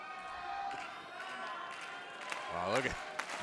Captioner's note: crowd claps rhythmically